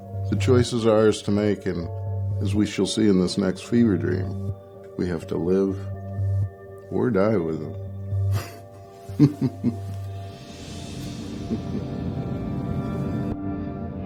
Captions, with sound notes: The choices are ours to make. And as we shall see in this next fever dream, we have to live or die with them (laughs) (gentle music)